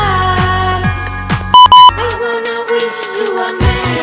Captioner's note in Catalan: doble bip per finalitzar proba de ball